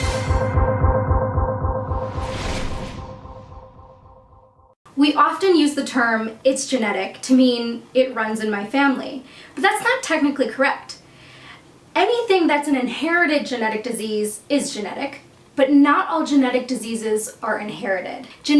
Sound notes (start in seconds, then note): 2.0 air whooshing